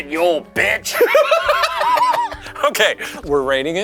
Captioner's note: laughing